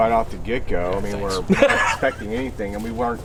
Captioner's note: laughing